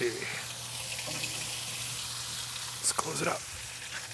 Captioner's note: ribs sizzling